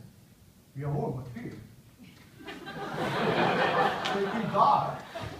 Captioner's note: laugh